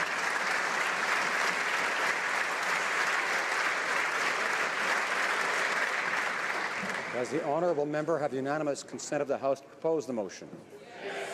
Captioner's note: applause